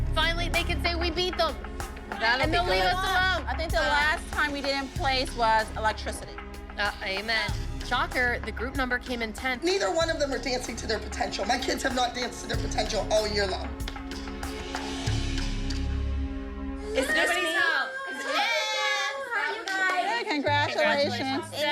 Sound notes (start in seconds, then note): 16.8 indistinct chatter